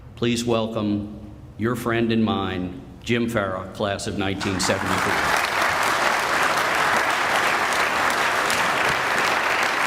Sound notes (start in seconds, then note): 4.4 audience applauding